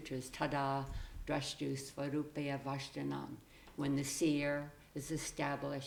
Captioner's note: speaking foreign language